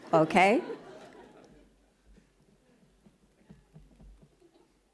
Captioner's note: laughing